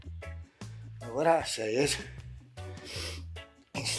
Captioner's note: sniffs